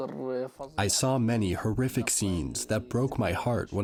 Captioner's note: through translator